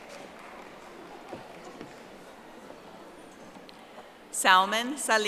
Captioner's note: audience applauding